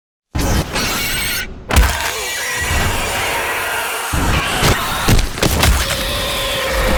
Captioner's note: thuds; demons screeching